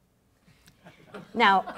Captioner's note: laughing